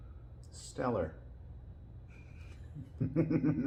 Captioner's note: laughing